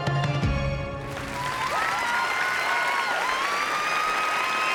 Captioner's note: cheering and applause